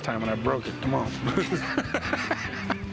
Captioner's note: laughter